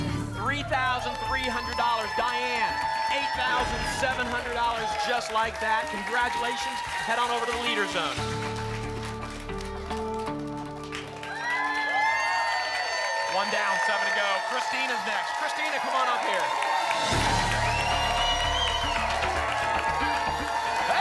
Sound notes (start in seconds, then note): 9.1 applause and cheering